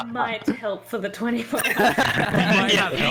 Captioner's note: laughs